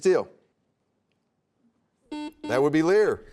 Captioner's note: buzzer sounds